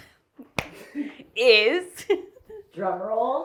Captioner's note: chuckles and claps